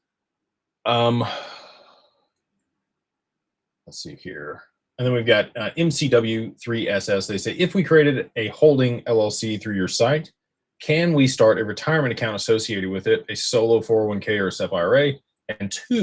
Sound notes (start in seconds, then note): 0.0 snorts; 1.0 sighs and gasps